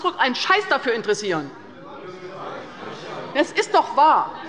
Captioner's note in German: Unruhe bei der CDU und dem BÜNDNIS 90/DIE GRÜNEN